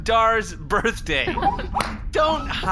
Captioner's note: laughs